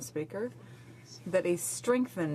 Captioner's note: speaking French